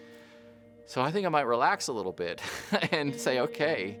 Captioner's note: laughs